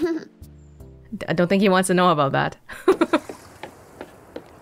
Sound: chuckles

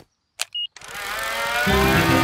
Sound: beeps; plane humming

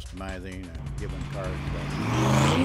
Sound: car engine roars

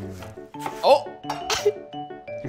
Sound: laughs

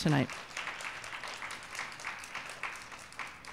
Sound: applause

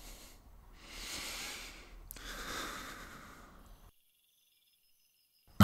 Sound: sighs

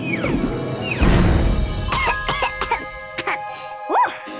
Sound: coughing

